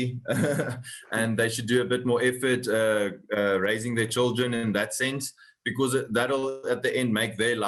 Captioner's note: laugh